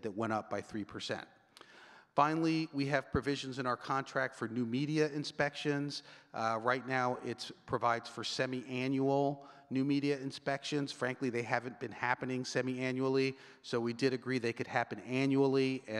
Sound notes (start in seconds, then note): none